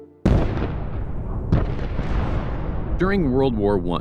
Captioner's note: cannons firing